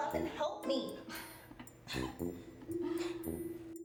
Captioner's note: everyone Laughs